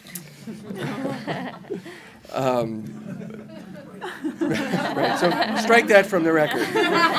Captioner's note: laughter